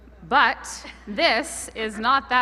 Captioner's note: laughter